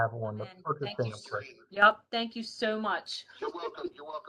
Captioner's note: laughter